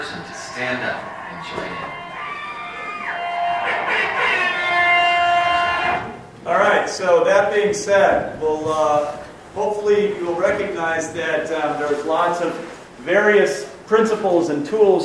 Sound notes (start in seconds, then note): 2.6 air horn blares, people squeal; 6.3 voiceover